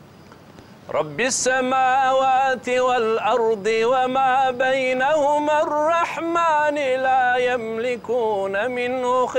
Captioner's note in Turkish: Arapça kuran okunuyor